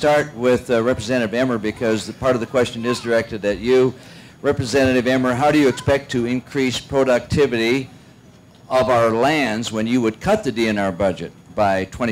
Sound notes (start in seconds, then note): none